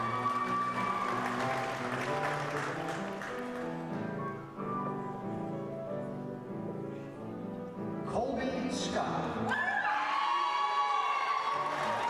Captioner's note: applause